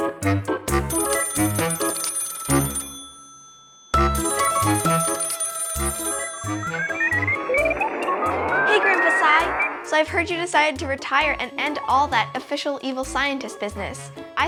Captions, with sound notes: (phone ringing) (electronic beeping) - Hey, Grandpa Scy! So, I've heard you decided to retire and end all that official evil scientist business.